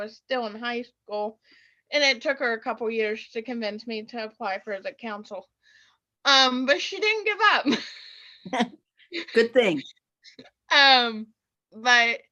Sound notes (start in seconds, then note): 2.0 chuckle